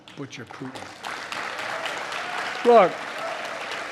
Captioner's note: applause